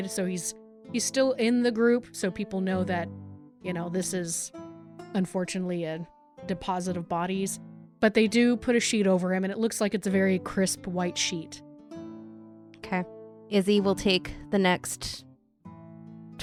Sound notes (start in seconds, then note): none